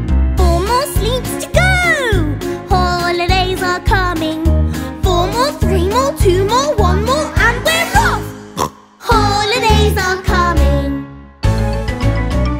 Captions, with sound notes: (SINGING) Four more sleeps to go. Holidays are coming. Four more, three more, two more, one more, and we're off. (SNORTS) Holidays are coming.